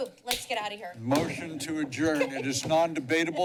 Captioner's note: laughter